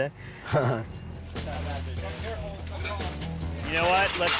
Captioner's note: chuckles; workers chattering